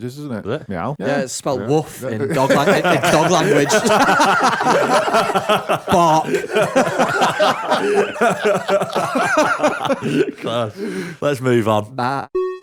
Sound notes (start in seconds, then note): 8.6 laughter